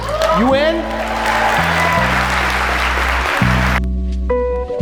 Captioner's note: audience applause; relaxing lounge music